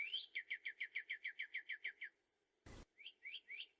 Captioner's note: bird singing